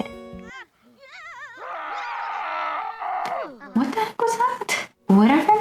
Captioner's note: Sims scream